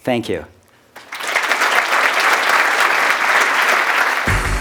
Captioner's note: applause